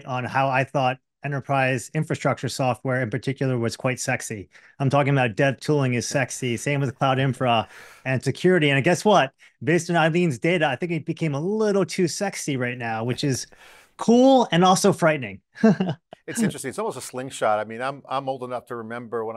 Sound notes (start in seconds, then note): 15.6 laughs